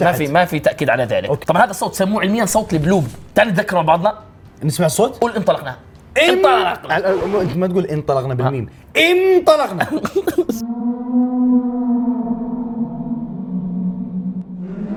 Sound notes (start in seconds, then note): 10.7 The Bloop sound